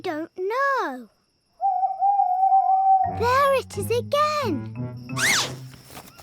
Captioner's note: owl hoots